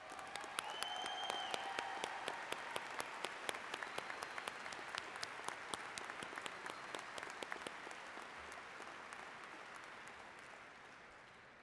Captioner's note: applause